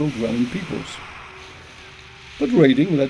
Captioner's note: waves crashing